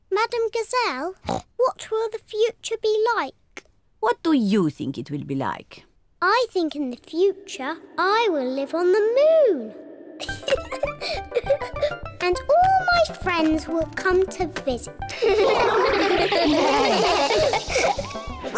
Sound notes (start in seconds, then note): 10.2 laughs; 15.1 all laugh